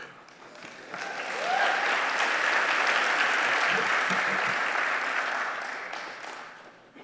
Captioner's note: applause